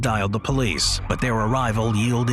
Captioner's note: police siren